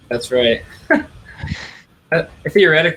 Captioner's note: laughs